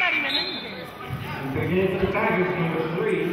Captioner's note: whistling